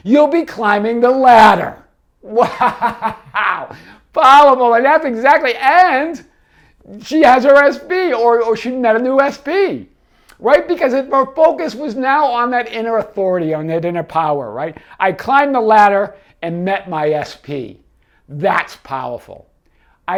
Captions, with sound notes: you'll be climbing the ladder. (laughing) Wow, powerful, I mean, that's exactly, and she has her SP or she met a new SP, right? Because her focus was now on that inner authority, on that inner power, right? "I climbed the ladder and met my SP", that's powerful.